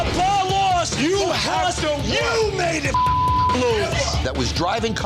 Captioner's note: beep